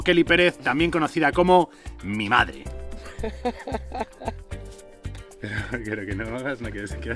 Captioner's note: laughs